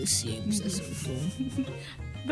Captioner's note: laughs